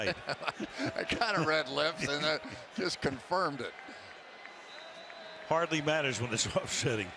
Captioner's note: laughs